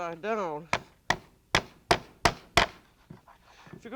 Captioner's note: thudding